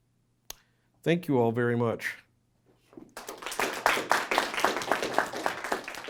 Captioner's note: audience applauding